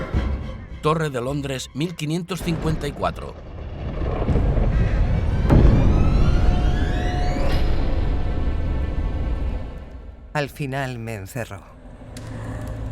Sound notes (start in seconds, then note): 2.3 thunder crashes; 5.8 eerie music